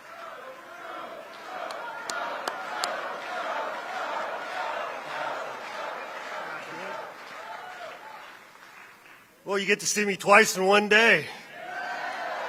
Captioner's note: applause